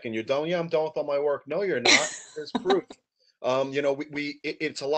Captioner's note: laughs